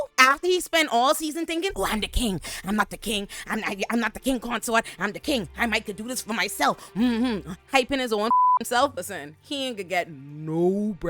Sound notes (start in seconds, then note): 8.3 beep